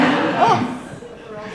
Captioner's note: audience laughing